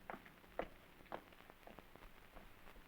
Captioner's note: none